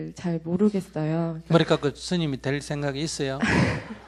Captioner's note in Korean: 질문자 웃음